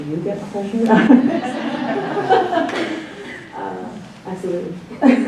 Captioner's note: laughs